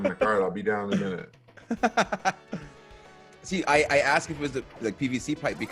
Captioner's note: laugh